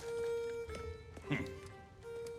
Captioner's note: laugh